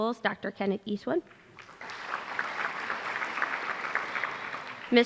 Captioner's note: applause